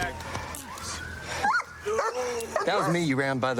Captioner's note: dog barks